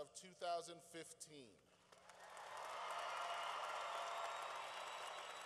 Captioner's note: cheering